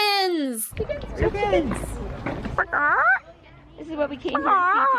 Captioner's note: clucking